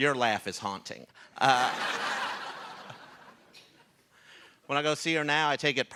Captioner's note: laughter